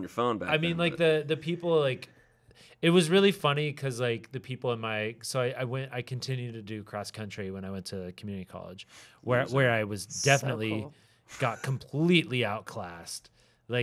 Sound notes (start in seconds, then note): 1.6 stammering